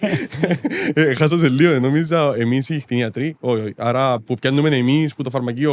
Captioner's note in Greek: γέλιο